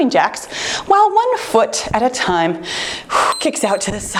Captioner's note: exhales; timer beeps